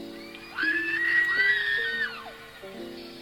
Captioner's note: more screaming